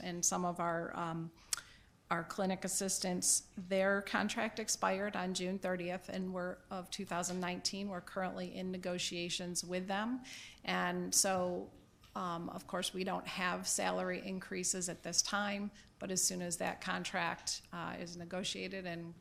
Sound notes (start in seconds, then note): none